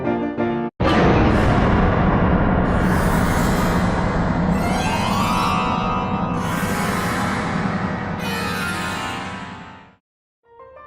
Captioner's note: explosion